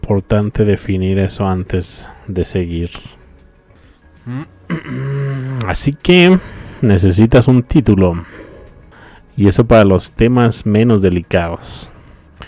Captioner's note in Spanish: carraspeo